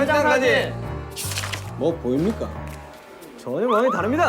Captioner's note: mysterious footstep